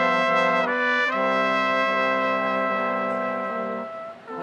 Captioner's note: none